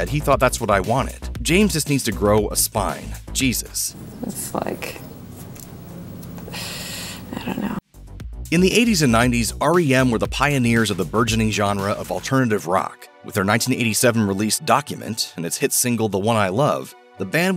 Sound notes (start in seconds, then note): 5.9 sighs